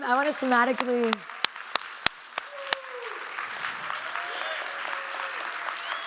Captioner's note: audience applauding and cheering